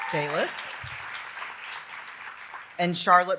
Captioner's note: audience applauding; audience cheering and applauding